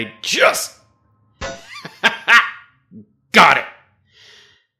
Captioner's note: triumphant laugh